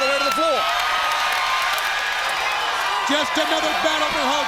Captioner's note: crowd cheering